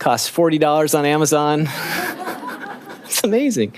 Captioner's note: laughing